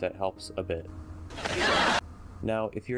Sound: laughter

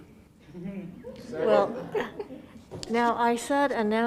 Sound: laughing

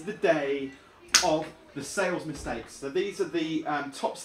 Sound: clap

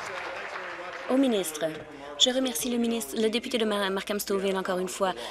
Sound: applause

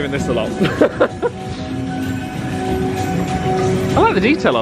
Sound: upbeat music continues; chuckles

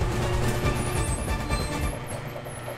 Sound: garage door squeaks

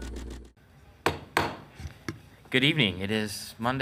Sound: gavel banging on desk

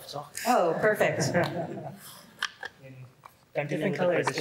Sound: laughter

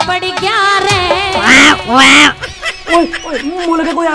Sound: cawing

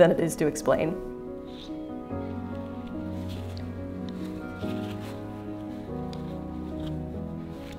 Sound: classical music; fabric rustling

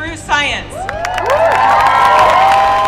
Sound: people cheering; applause

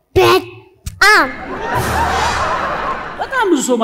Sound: laughter

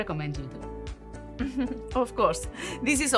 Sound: chuckles

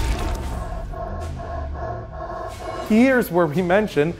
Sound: heavy breathing

